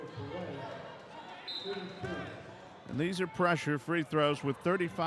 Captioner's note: clapping; whistle blows